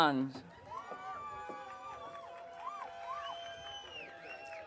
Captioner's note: audience cheering